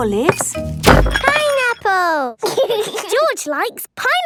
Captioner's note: bangs; laughs